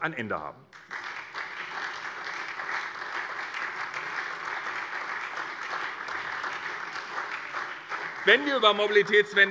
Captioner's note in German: Beifall SPD